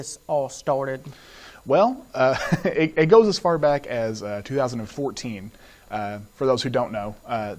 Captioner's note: laughs